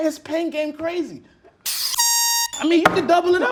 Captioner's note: loud whistle